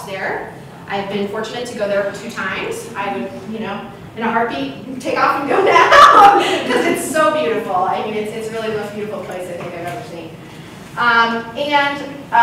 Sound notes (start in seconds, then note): 5.5 laughs